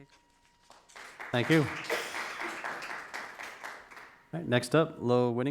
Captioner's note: crowd claps